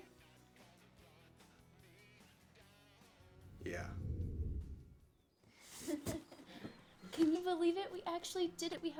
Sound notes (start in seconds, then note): 5.9 laughing